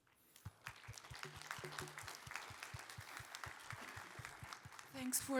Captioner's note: applause